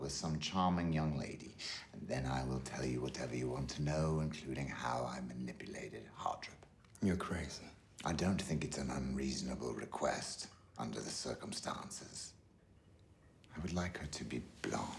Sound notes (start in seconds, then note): none